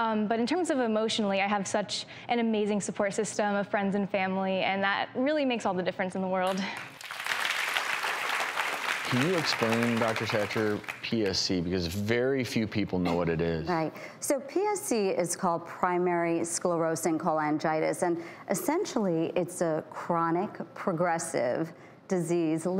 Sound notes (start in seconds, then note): 6.5 audience clapping